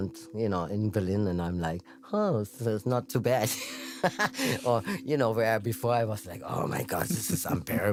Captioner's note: laughs